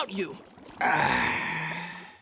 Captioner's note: sighing